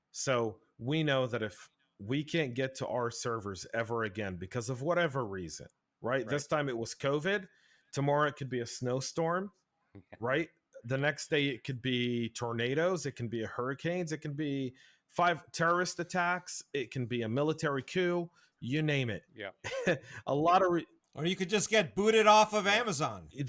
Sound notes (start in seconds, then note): 19.6 laughs